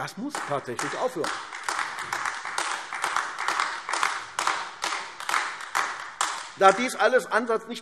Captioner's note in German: Beifall AfD